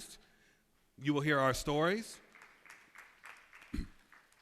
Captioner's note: applause